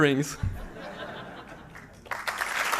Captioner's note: laughter; applause